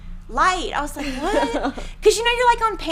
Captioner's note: laughing